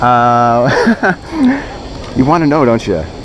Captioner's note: laughing